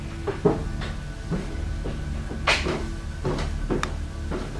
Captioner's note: footsteps on stairs